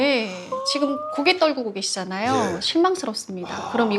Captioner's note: sigh